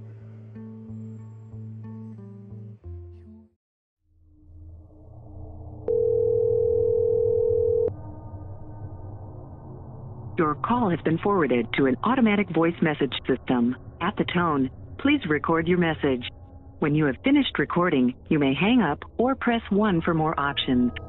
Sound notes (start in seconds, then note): 5.9 phone rings